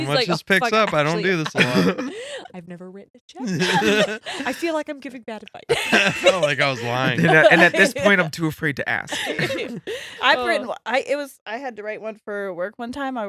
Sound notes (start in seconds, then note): 3.4 laughing